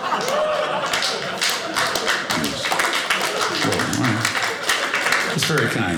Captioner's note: audience laughing; audience applauding